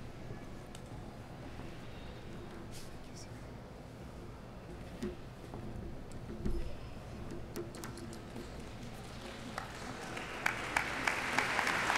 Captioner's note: applauding